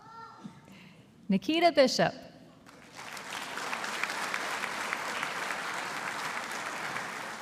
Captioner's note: audience applauding